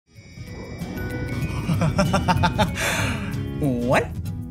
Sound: light playful music; Marty laughing

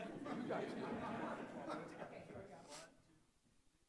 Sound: audience laughing

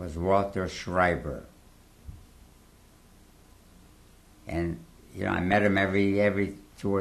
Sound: pauses for 3 seconds

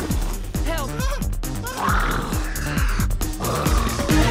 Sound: O'Keeffe whines; growling

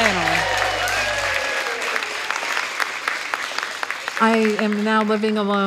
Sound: attendees cheering and applauding

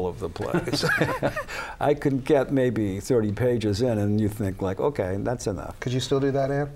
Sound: laughter

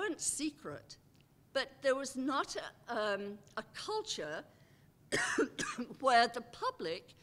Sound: cough

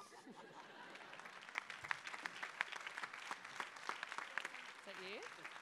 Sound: applause

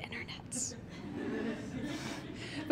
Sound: audience laughs

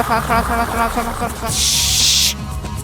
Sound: tshshshsh

